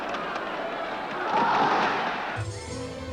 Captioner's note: crowd shouts "ole"